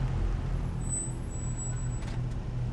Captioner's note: brakes screech